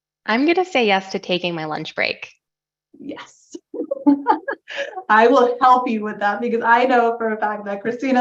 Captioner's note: laugh